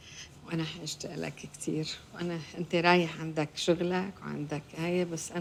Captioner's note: mama speaks in foreign language